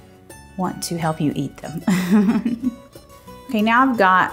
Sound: laughs

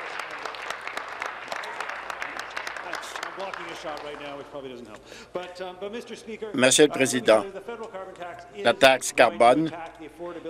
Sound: applause

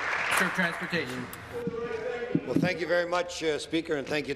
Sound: applause

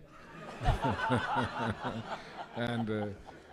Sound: laughter

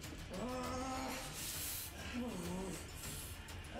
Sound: grunting

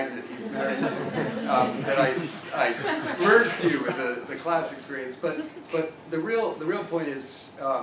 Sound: laugh

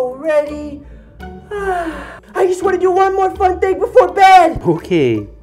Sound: yawns

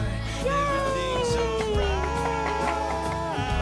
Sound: cheering

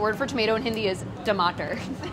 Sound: speaking in foreign language; both laugh

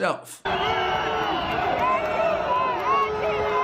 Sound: crowd shouting and booing

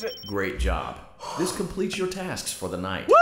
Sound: sighs deeply

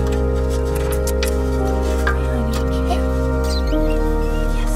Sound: tongue clicks

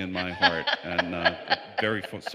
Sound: laughter

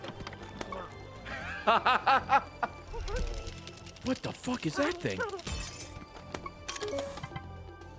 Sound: laughs

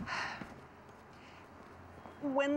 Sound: sigh s

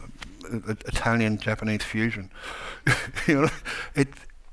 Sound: chuckles

